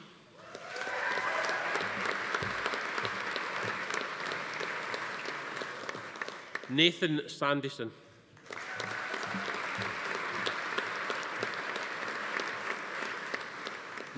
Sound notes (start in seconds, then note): 0.4 attendees cheering; 0.4 audience applauding; 8.4 audience applauding; 8.4 attendee cheering